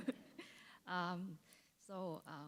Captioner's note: chuckle